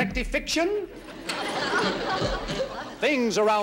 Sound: audience laughing

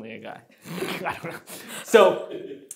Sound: both laughing

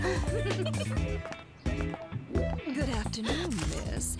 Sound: laughs; laughter

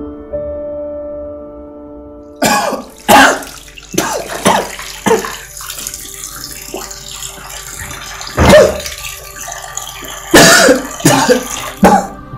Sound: coughing sound

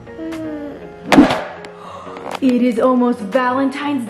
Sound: thudding on table

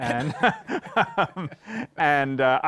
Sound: chuckles

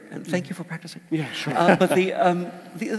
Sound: laugh

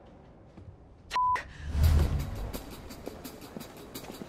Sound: beeps

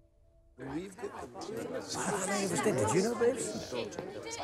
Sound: editor chatter

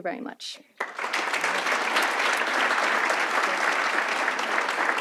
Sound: audience applauds

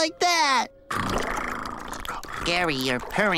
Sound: purring

